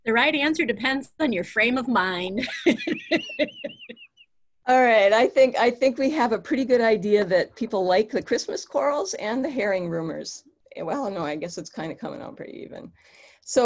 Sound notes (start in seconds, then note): 2.4 laughs